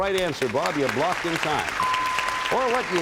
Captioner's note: applause; bell rings